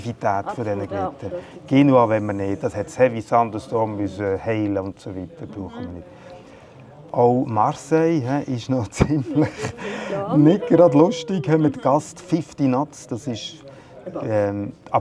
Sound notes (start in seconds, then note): 9.0 laughs